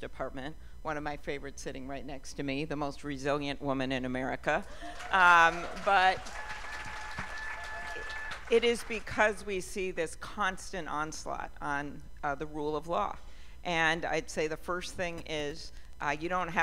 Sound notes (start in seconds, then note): 4.8 cheers and applause